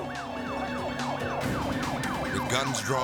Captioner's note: sirens wailing